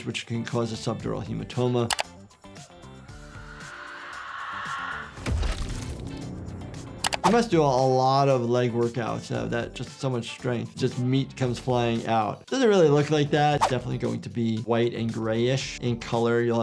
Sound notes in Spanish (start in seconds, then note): 2.4 música espeluznante; 5.3 sangre brotando